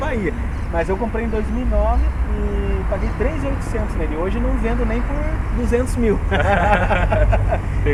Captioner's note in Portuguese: risos